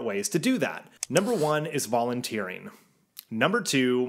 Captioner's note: mouse clicking